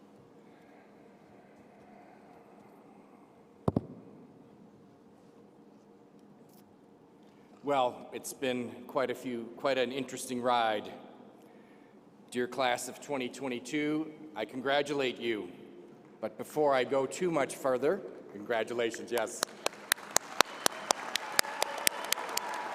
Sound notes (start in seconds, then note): 18.9 applause